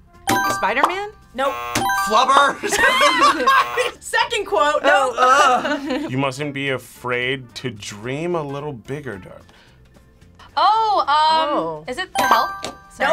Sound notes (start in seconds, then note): 1.3 buzzer rings; 1.3 buzzer; 2.4 both laugh; 3.3 buzzer; 5.0 both laugh; 12.2 buzzer rings